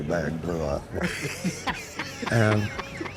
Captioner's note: laughter